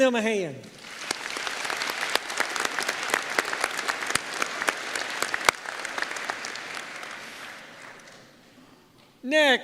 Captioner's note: applause